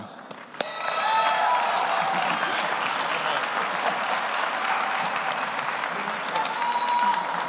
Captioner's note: audience applauds; audience cheers